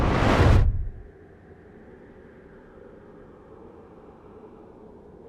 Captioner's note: wind howling